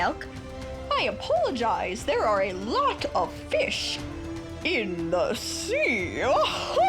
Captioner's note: chuckles